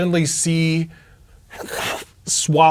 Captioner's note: imitates chomping noise